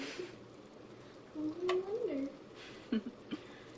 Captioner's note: chuckles; chuckle